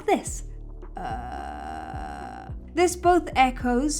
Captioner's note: croaks